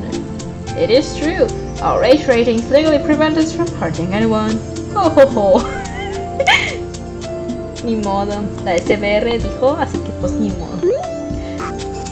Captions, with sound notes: "It is true, our age ratings legally prevent us from hurting anyone, ho ho ho" [laughs] No choice, the ESBR said so, so there's no choice